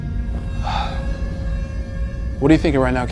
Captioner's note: ominous music; Jack sighs